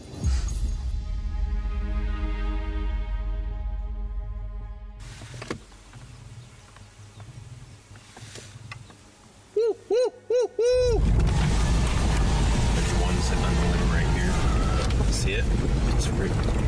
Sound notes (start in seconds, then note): 0.1 somber music; 5.2 car door clicks; 5.4 imitates gobbling